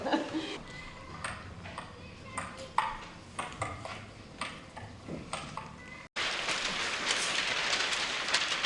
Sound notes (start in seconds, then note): 0.5 ping-pong noises; 6.1 papers rustling